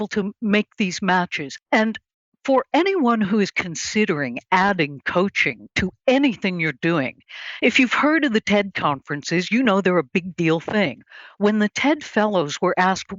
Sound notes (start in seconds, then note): none